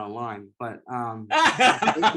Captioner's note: laughter